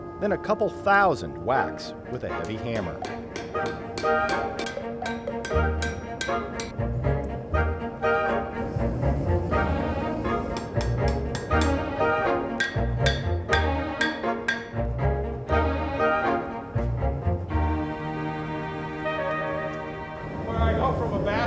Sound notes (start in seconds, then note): 4.5 hammer hitting steel; 6.6 lively music